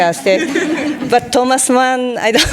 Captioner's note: audience laughing